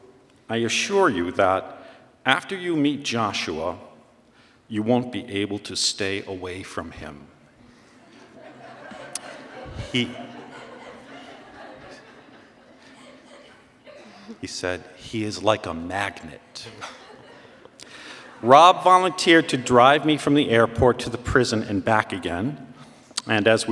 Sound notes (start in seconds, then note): 7.9 laughter